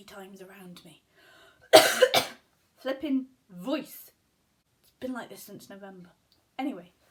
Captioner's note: cough